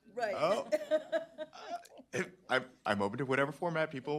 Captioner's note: chuckling